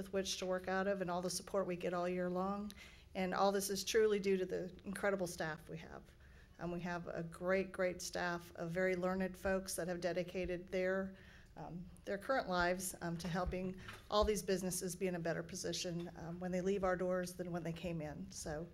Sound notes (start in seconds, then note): none